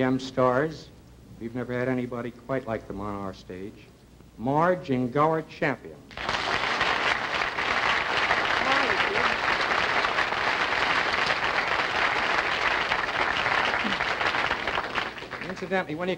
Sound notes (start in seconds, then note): 3.3 applause